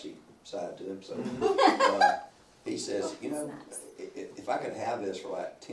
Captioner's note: laughs